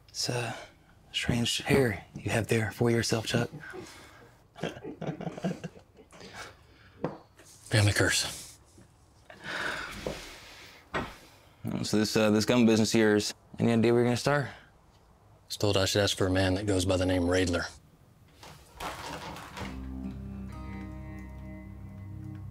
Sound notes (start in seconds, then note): 4.5 henchmen chuckle; 19.9 tense music